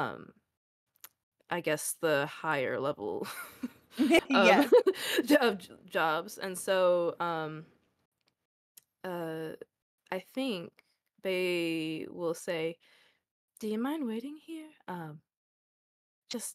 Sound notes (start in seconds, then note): 3.3 laugh